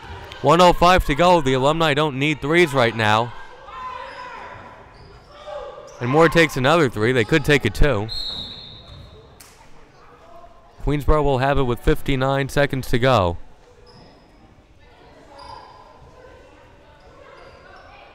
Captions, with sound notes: 1:05 to go. The Alumni don't need threes right now. And Moore takes another three. They could take a two. (whistle blowing) Queensborough will have it with 59 seconds to go.